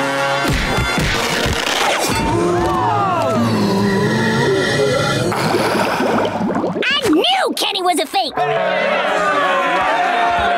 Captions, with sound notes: [gasps] [sighing] I knew Kenny was a fake! [jeering]